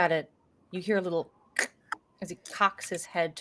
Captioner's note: makes cracking sound with mouth